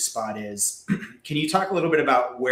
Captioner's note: clearing throat